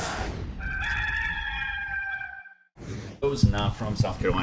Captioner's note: rooster crows